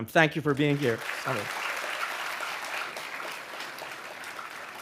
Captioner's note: audience applauding